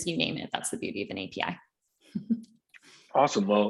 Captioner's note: chuckles